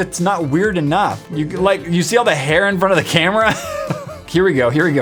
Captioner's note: laugh